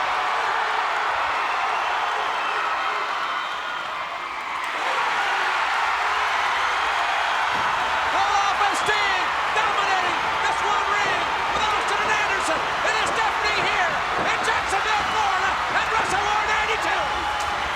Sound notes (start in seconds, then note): 4.7 crowd cheers